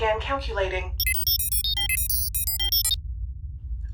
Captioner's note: calculation sounds